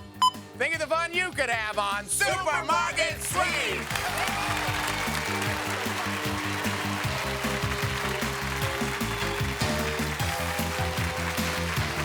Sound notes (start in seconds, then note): 3.0 audience applause; 3.8 theme music